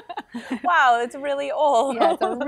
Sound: laughs; laughs

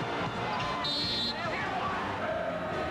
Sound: whistle

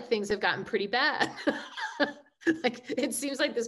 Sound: laughing

